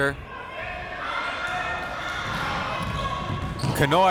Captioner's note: crowd members shouting